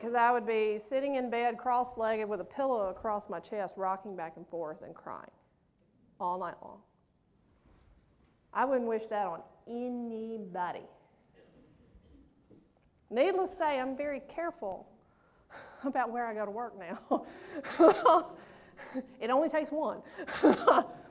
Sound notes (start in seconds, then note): 17.0 laughs